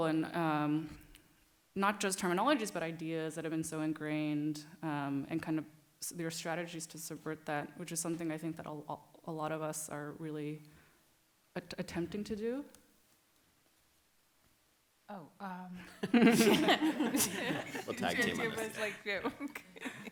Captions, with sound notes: and not just terminologies, but ideas that have been so ingrained and kind of your strategies to subvert that, which is something that I think that a lot of us are really attempting to do. (laughter) - We'll tag team on this.